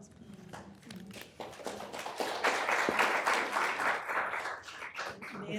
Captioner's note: applause